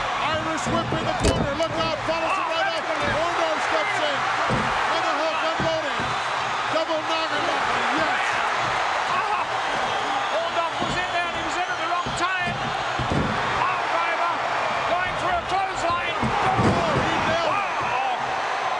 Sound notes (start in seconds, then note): 4.5 audience cheering